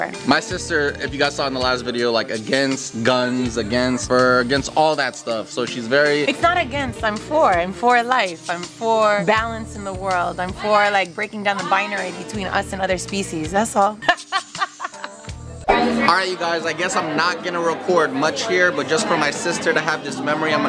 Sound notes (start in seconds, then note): 14.0 laughing